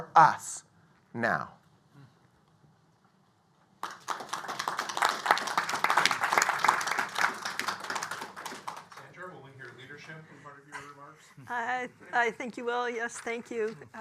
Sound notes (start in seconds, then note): 3.8 applause